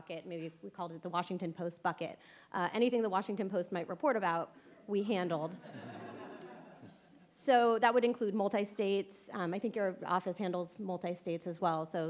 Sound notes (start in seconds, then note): 5.6 audience laughs